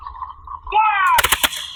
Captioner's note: sound of gunshots